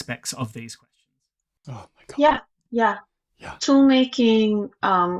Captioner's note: none